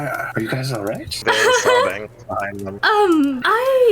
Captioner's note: nervous laughter